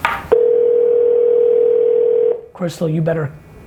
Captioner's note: phone rings